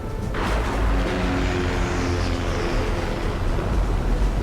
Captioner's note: thunder rumbles; plane buzzes